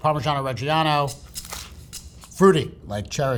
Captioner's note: sandwich rustling; upbeat music